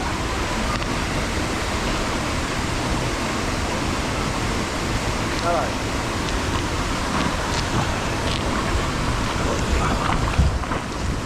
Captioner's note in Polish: odgłos wody